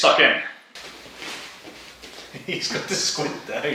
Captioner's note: rustling of feet